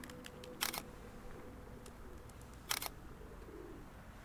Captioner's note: camera clicking